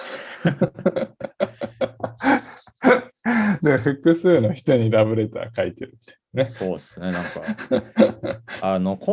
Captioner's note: laugh